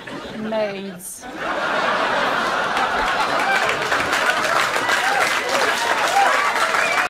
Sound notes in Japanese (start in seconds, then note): 2.3 拍手; 3.3 笑い声